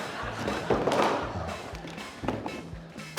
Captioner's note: noodles clatter